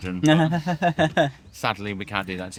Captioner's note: laughing